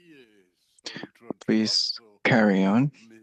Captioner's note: speaking French